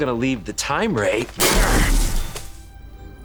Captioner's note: grunting